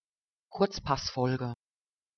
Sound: fast Pronunciation

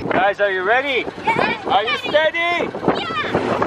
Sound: excited cheering

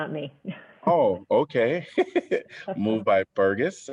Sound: laughter

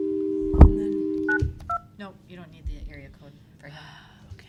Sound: dialing

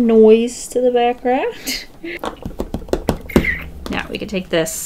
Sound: laughs, tapping

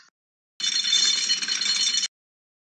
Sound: chain Noises

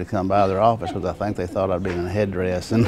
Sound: laughing

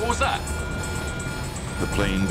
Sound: monitor beeping

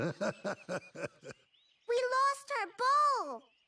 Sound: laughing

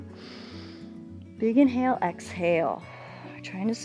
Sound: exhales

